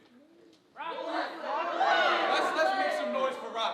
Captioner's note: audience shouting